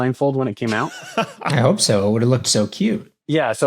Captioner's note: laughs